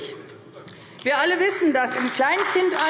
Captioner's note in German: Beifall AfD